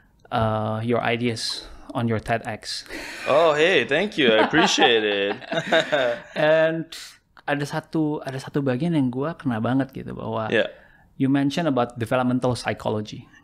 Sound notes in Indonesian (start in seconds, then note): 4.1 tertawa